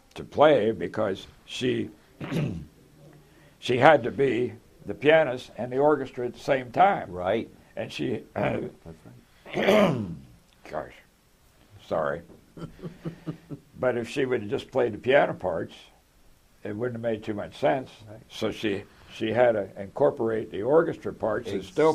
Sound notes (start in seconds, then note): 9.5 cough